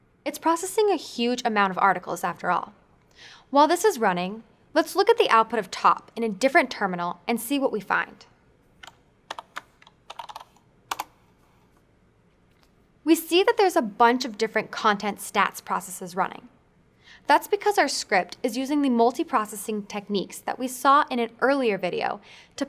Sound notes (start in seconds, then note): 9.3 typing